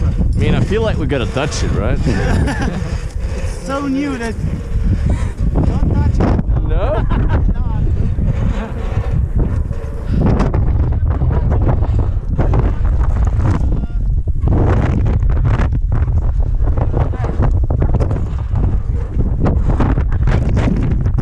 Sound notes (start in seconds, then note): 9.4 heavy wind